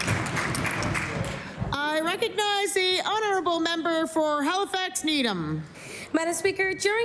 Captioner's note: applause